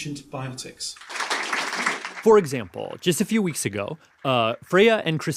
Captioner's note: applause